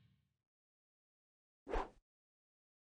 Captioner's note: whooshes